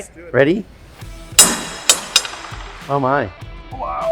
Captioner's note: ball bangs on deck